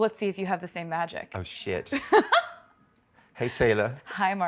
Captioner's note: laughs